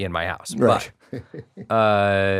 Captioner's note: laughs